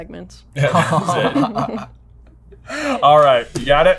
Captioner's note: laughter